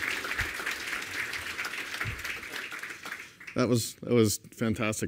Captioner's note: applause